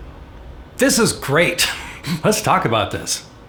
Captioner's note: laughs